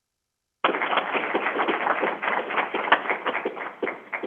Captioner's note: crowd applauding